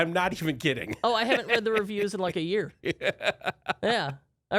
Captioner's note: laughs